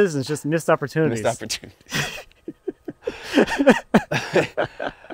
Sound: laughing

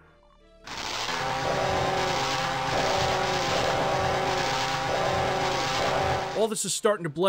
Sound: chainsaw noises

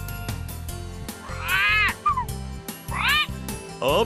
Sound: sound of a parrot

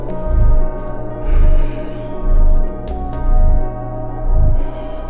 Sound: breathing heavily

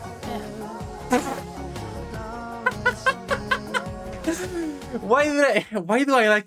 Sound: laughs

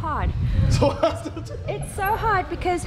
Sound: laughing

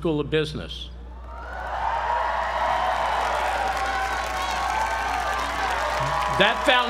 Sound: applause

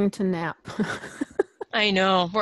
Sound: laughter

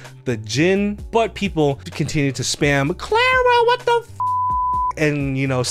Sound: beep

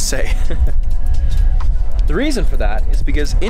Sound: laughing

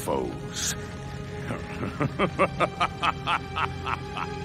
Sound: evil laughter

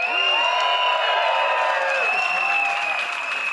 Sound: crowd cheers

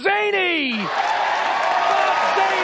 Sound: audience cheers and applauds

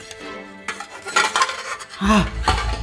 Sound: cake tin clattering

